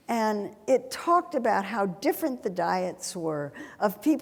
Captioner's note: none